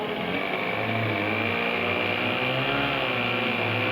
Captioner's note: engine roaring